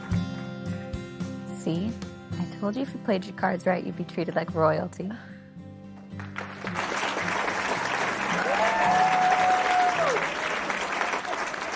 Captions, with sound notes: - See I told you if you played your cards right you'd be treated like royalty. (group clapping) (group cheering)